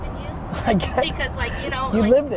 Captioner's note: Gary laughs